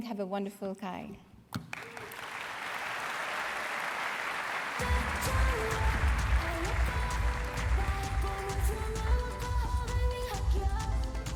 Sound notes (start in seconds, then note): 1.5 applause; 6.3 upbeat music